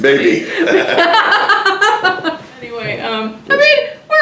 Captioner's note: laugh